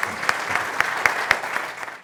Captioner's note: applause